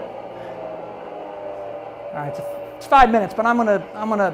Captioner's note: boat engine roars